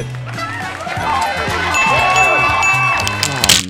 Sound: upbeat game show music; audience cheering

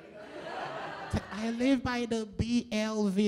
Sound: laughter

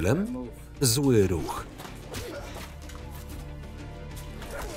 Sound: punching

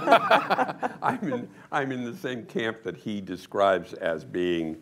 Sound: laughter

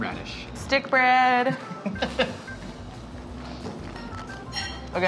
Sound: laughing

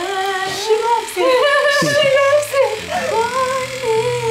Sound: laughter

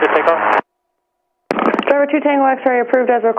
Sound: static

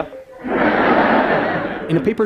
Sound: laughter

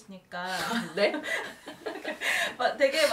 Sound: laugh

